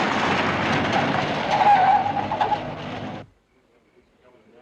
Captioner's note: tires screeching; townsmen chattering